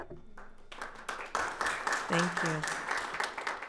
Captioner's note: audience applauds